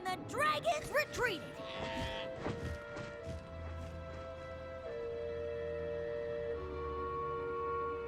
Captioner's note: bleats